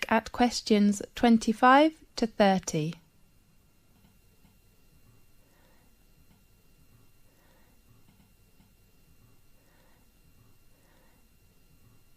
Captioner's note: 5 seconds pause